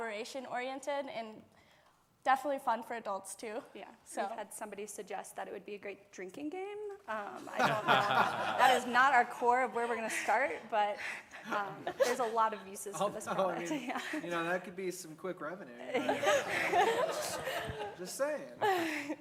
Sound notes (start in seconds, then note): 7.4 laughter